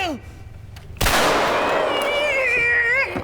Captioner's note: gunshot